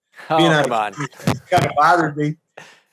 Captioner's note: chuckles